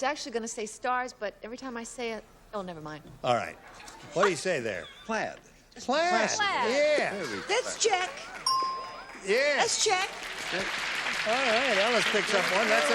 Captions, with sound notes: - I was actually going to say stars, but every time I say it-- oh, never mind. - All right. What do you say there? - Plaid. - Plaid, yeah. - That's check. - Yeah. - That's check. [applause] - All right, Elnus picks up one.